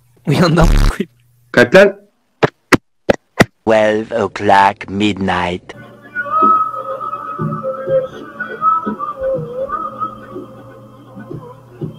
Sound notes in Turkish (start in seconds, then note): 0.6 tak